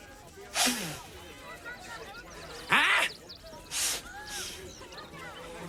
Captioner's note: sniffs